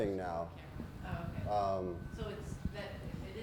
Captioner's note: voiceover